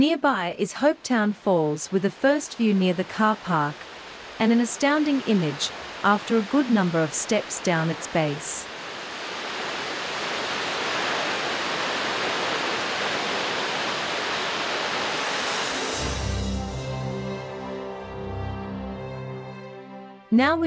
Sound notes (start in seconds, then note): 9.0 water falls; 15.1 magical music background